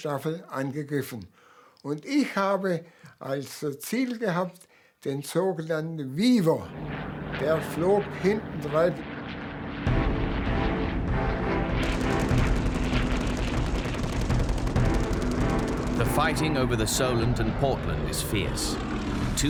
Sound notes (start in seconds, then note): 9.7 dramatic music; 10.2 plane engines roaring